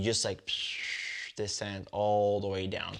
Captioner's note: whistles